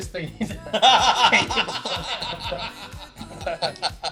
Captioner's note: laughing